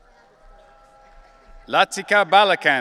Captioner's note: audience cheering